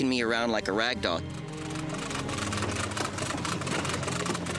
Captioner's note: cranking